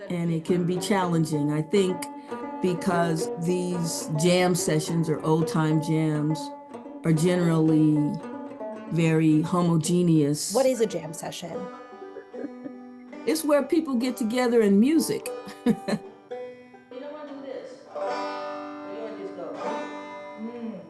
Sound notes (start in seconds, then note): 15.4 laughs